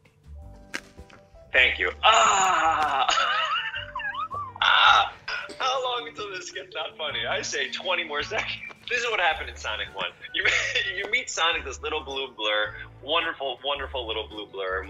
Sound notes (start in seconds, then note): 2.1 sputtering laughter; 9.9 laughs